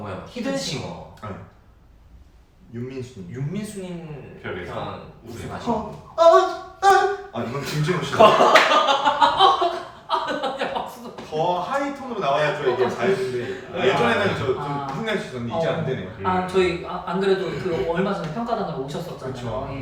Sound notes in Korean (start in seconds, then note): 8.1 대폭소; 8.5 묵음웃음